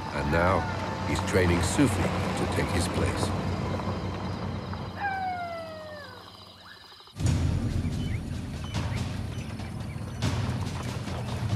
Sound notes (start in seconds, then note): 4.8 animal howling; 7.2 dramatic music